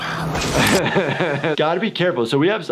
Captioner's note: laughing